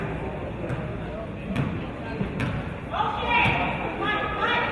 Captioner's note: none